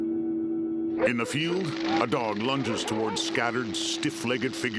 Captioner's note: dogs barking; helicopter whirring